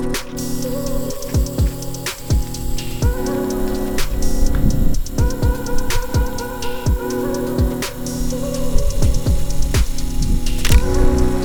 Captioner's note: camera motor whirring; shutter clicks